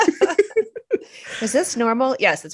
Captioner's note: laughs